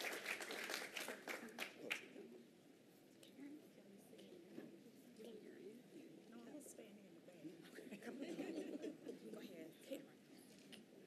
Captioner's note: applause